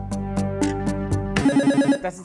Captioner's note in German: Buzzer